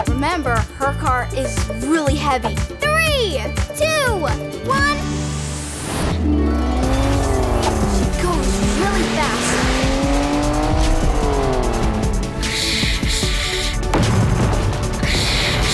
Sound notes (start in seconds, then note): 9.8 engine revving; 12.6 hissing